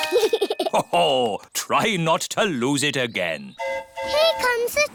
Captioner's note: giggles; train horn hooting